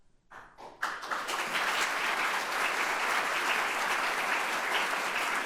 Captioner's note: audience applauding